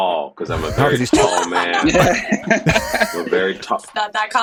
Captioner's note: all laughing